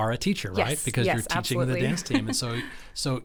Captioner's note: chuckles